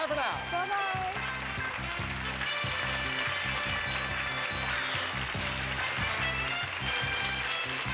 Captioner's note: audience applauding